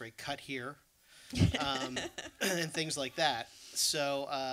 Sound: laughs

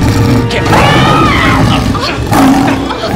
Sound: screaming

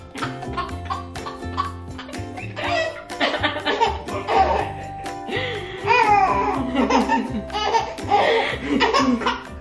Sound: laughing

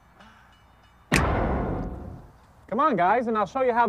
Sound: loud short bang

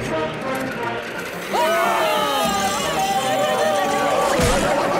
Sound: screaming

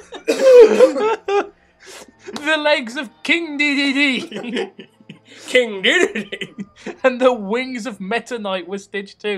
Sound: laughter

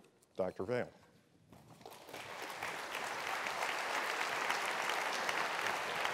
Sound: applause

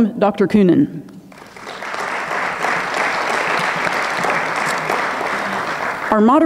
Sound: audience clapping

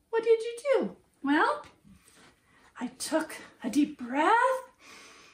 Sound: inhales and exhales deeply

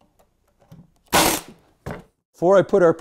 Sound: staple gun

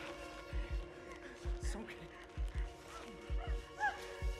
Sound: heart beating

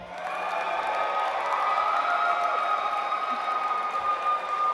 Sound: audience applauds

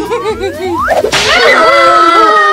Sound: laughs; snap

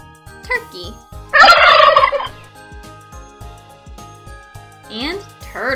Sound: turkey gobbling; turkey gobbles

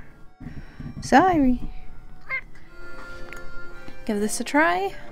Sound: kitty meow

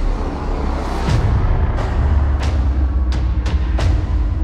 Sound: rhythmic explosions

